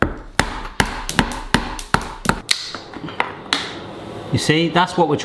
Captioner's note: hammering